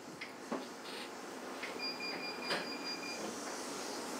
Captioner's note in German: Elektronisches Piepen